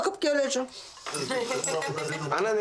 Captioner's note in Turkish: Gülüyorlar